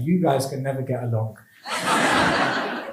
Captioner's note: laughs